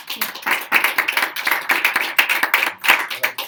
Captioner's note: crowd applauds